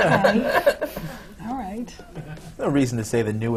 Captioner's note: laughter from the panel